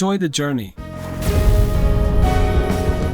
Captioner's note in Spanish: Explosión de Logo BK42